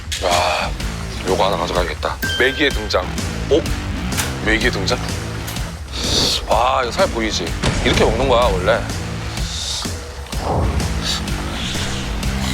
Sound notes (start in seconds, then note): 5.8 slurps